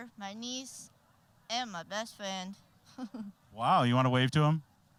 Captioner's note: chuckling